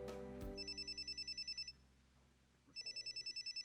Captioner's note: phone rings